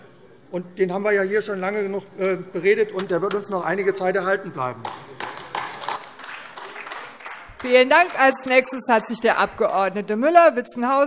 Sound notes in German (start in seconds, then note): 4.8 Beifall AfD